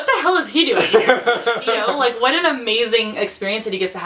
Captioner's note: laughs